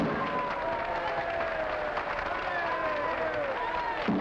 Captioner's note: gavel pounding